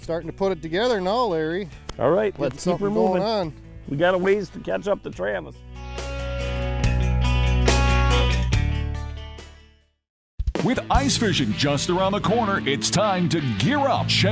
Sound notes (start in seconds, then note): 10.7 voiceover